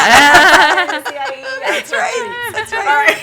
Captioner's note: laughter